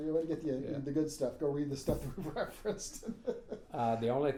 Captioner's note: laughing